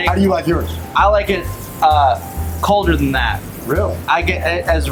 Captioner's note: steak sizzling